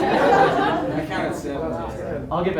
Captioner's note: audience laughs